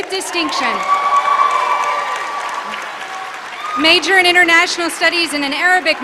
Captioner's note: applause